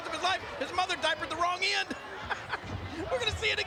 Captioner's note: chuckling